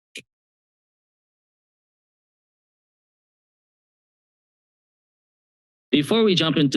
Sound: silence

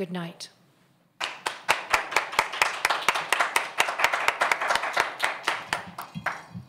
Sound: audience applause

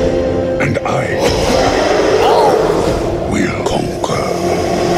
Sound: startled by Apes' roar

